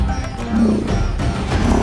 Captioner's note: elephants roaring